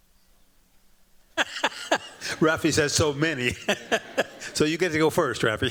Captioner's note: chuckles